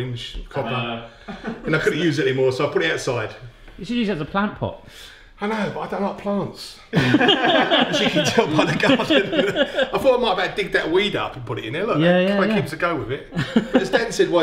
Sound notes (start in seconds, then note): 6.9 all laugh